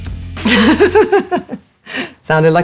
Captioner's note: Alexa laughing